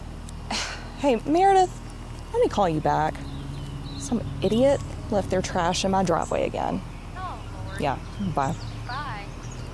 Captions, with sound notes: - Hey Meredith, let me call you back. (birds chirping) Some idiot left their trash in my driveway again. - Oh, Lord. - Yeah. Bye. - Bye.